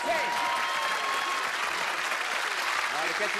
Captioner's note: cheers and applause